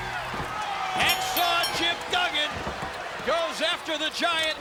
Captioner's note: bell ringing